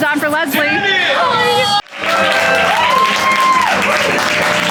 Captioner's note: all cheering